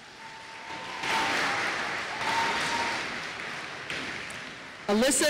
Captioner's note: applause